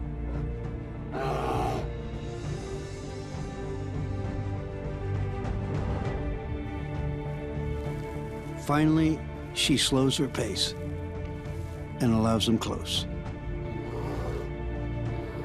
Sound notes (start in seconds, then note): 1.1 bear roars; 2.7 dramatic music